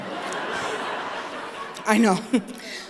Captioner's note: laughter